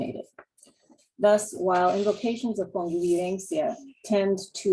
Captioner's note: spanish